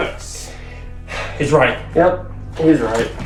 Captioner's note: sighs